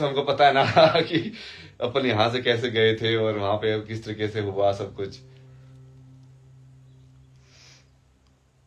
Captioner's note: हंसी